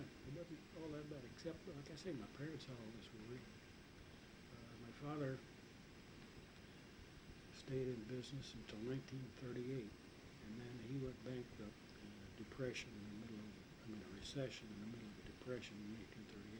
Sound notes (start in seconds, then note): none